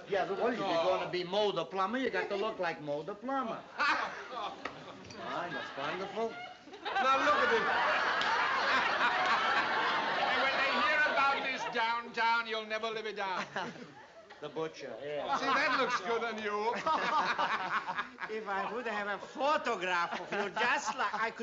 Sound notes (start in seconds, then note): 3.8 laughs; 8.7 laughter; 17.1 laughter